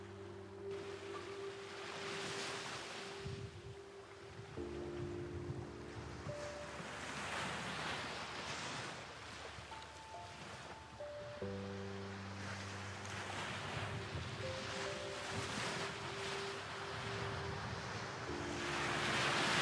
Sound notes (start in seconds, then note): 1.6 waves crashing